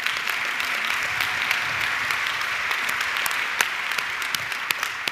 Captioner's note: audience clapping